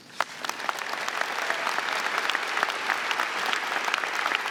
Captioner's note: audience clapping